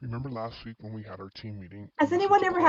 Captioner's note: recorded Voice